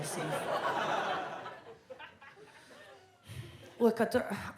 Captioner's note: audience laughs